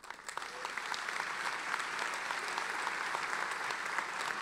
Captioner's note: applauding